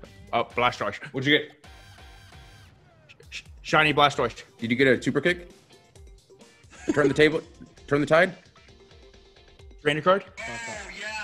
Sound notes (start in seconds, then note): 6.7 laugh